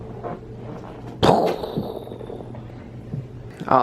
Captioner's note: explosion noise